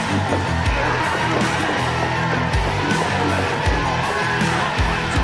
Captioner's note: Out of anger Dark Shadow yells and grunts